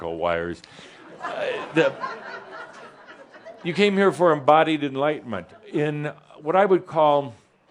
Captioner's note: some chuckles